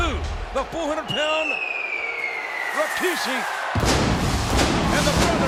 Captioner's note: fireworks whistling